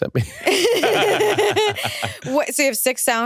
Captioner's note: all laugh